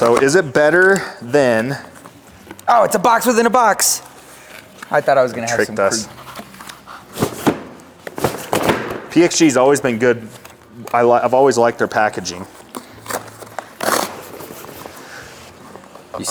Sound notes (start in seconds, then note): 6.9 box rustling; 13.0 box ripping